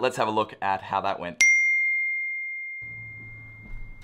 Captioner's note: dings